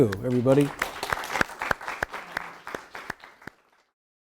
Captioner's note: audience claps